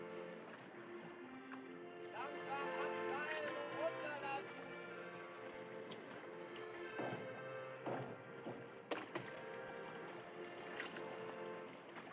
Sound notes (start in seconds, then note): 1.0 crewman: German